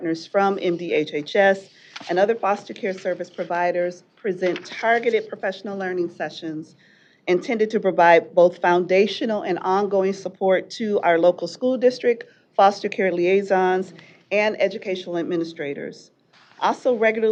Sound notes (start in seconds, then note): none